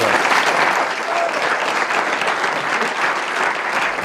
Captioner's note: applause